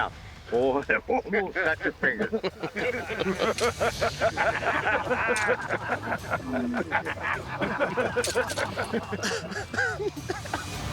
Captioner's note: laugh